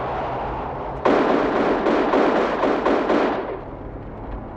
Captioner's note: gun bangs